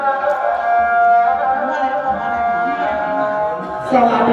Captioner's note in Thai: ปรบมือ